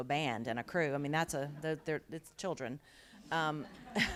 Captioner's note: laughter